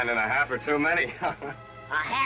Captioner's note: laughs